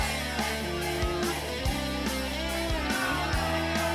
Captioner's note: crowd clamoring